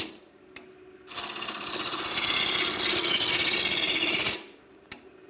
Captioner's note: gouge scraping on the wood